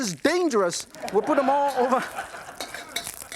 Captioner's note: audience laughs